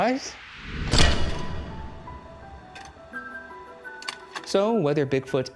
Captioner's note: transition clacking; bright music